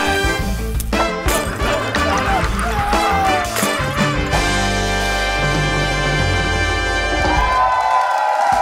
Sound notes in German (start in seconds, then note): 1.6 Gluckern; 6.2 Musik verklingt; 7.0 Jubel